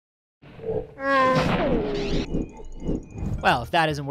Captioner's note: chewie growl